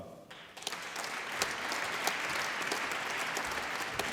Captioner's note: applause